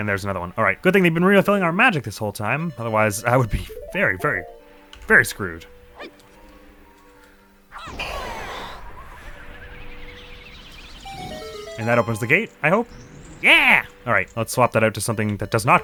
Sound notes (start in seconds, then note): 10.4 fire noises